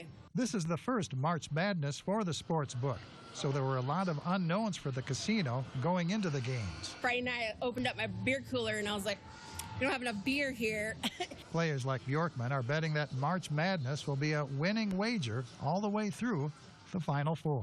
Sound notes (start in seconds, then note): 11.0 laughs